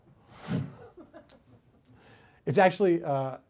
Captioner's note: woman laughs